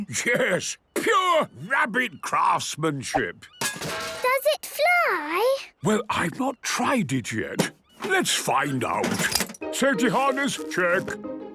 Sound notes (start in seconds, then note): 3.5 distant clanging